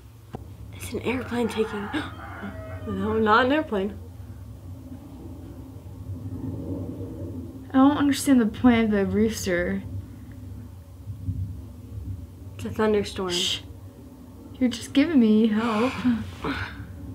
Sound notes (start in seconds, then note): 1.0 rooster crows; 3.2 gasps